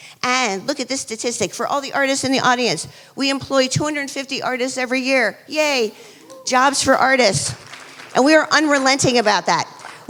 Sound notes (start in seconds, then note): 7.3 applause